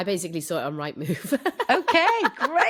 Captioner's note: laughs